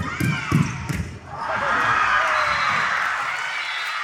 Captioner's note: applause and cheering